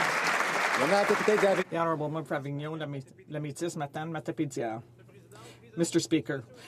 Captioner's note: some Applause